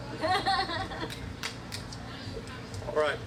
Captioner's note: all laughing